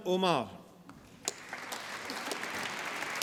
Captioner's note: applause